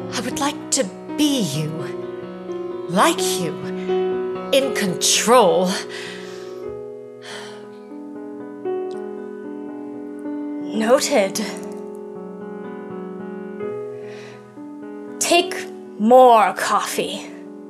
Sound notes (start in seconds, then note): 5.9 inhales and exhales